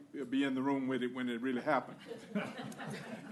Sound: laughter

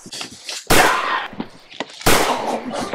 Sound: bang!; choking

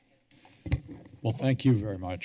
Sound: tapping sound

